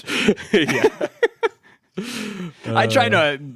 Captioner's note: laughs